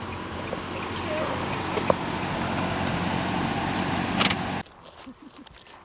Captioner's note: car engine roaring; feet tapping